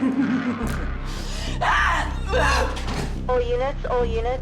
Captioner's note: laughing